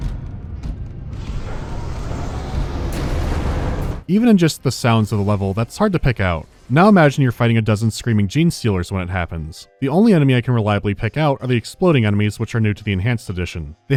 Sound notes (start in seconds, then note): 1.1 unimpressive hissing